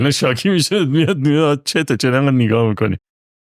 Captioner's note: laughs